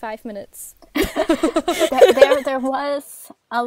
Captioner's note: hosts laugh